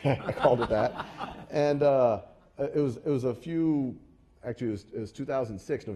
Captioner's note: laugh